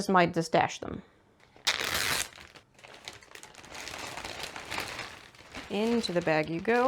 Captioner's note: ziplock bag opens and then crinkles a bunch